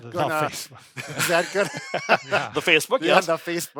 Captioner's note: laughing